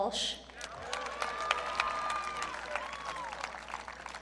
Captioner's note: audience cheering